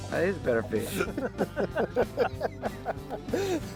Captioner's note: group laughs